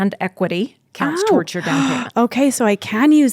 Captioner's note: inhales sharply